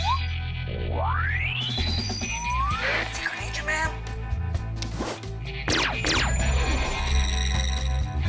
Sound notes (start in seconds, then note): 5.7 laser sfx